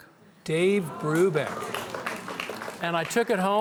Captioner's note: audience gasping